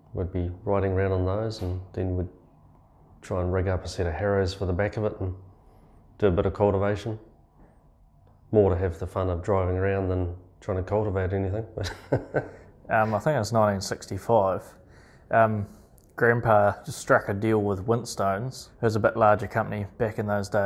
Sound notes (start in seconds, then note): 11.8 laughs